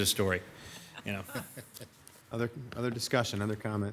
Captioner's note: audience laughing